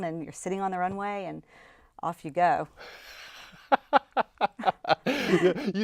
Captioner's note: laughing